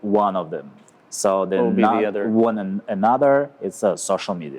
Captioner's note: murmurs